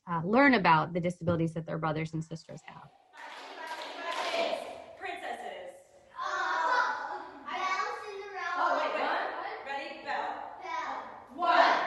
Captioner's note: sound of children in a SibShop group